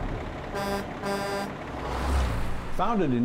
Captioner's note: truck horn